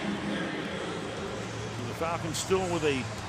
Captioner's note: pa announcement